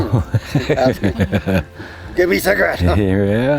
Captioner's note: person laughing